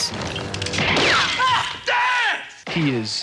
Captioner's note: gun shot rings